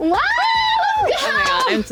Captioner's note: applauding